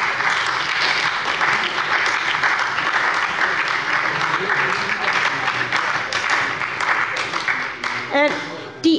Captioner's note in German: Beifall bei der SPD und der LINKEN